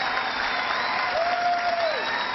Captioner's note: cheering